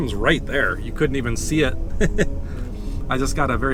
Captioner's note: laugh